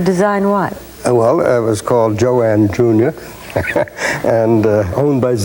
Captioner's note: laughing